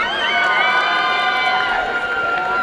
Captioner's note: applause and cheering